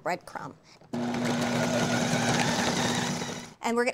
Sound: whirring

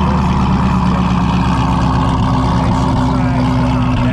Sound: car engine running

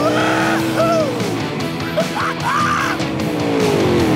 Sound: laughing

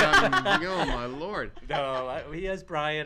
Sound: laughs

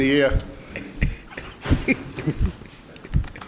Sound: laughs

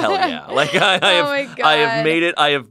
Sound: laughs

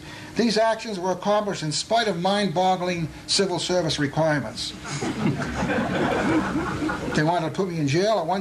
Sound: laughter

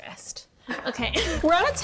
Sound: laughs

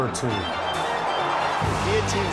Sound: crowd cheering

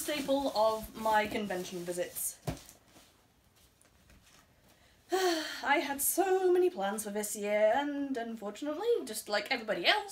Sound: wistful sigh

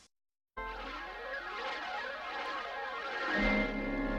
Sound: swirling sounds resuming

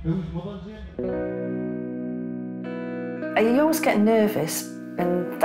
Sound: none

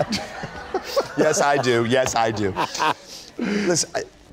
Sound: laughter

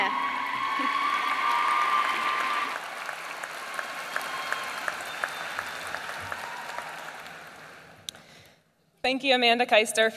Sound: applause

